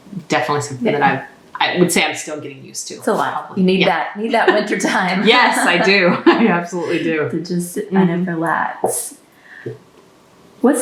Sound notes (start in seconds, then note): 4.3 laughter